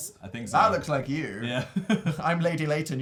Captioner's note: laughs